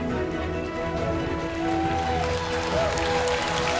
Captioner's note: cheers and applause